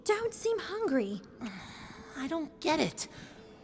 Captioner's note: sigh